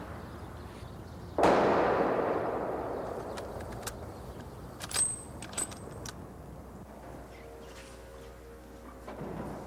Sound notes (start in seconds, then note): 1.4 gun firing